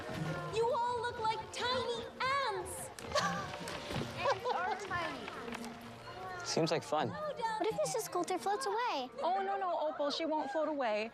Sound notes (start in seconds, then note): 3.0 laughs